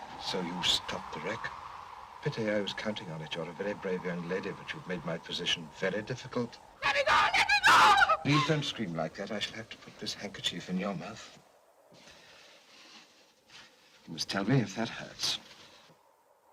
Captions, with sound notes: So you stopped the wreck? Pity, I was counting on it. You're a very brave young lady, but you've made my position very difficult. - Let me go, let me go! (screaming) - Please don't scream like that. I shall have to put this handkerchief in your mouth. You must tell me if that hurts.